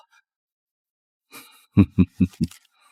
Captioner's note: snickers